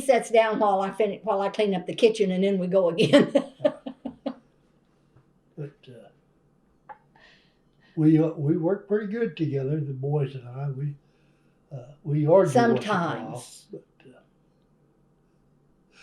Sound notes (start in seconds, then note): 8.0 laughs